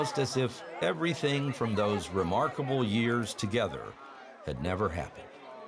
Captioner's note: cheering